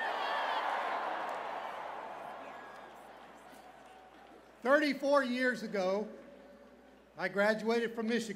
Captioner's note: cheers and applause